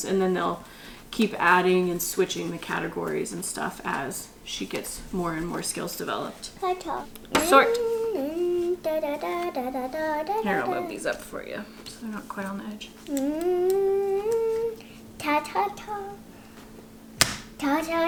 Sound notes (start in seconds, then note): 6.5 hums; 6.8 vocalizes; 12.8 hums